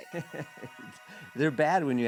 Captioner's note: laughing